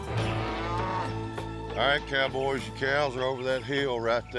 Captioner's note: cattle moo